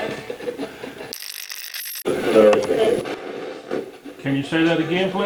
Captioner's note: radio channel changing; radio scratching